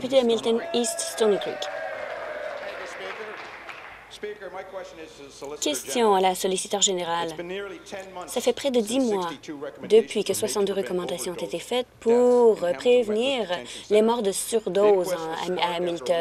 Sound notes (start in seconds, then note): 4.3 applause; 5.0 cheers